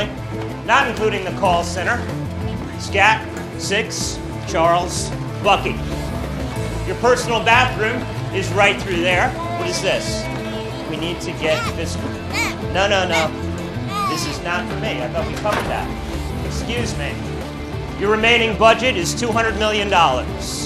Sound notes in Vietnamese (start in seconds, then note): 13.8 tiếng trẻ con líu lo